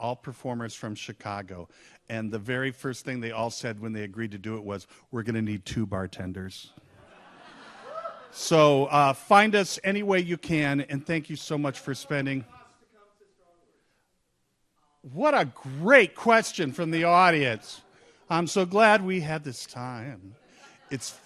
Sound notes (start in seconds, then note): 6.9 audience laughs; 12.7 man in audience shouts